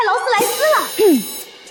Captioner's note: cough